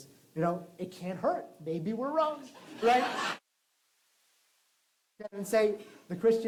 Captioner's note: laughter